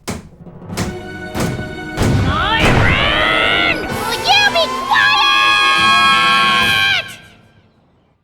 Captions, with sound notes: MYRON! (SHOUTS) WILL YOU BE QUIET?!